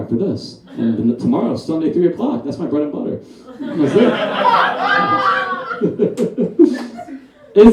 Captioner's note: audience Laughs